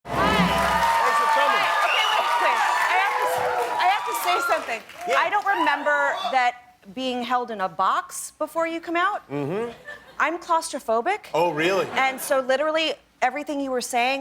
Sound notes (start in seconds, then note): 0.1 cheers and applause